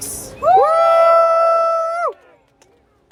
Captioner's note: crowd cheers